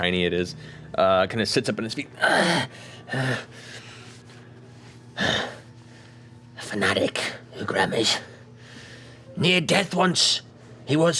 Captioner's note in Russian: хрипло дышит